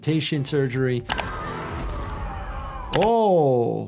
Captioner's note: Vecna screaming